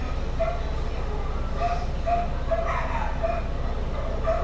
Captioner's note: dogs barking